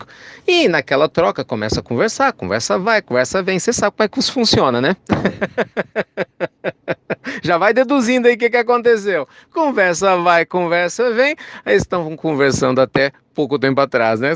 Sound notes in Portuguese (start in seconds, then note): 8.9 risos